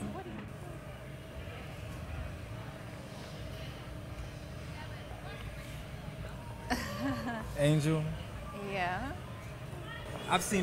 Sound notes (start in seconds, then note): 1.7 chattering; 6.7 laughs